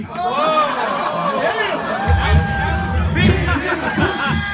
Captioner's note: audience yelling